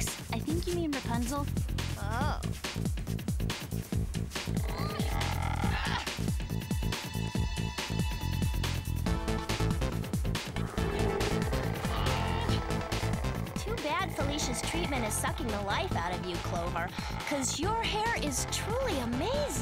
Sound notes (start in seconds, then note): 4.4 grunting